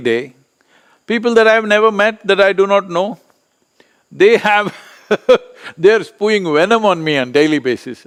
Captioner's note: laughs